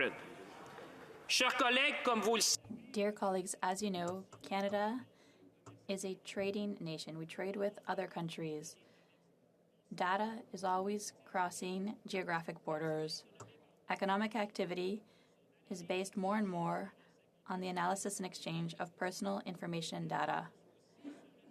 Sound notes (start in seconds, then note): 4.8 speaking French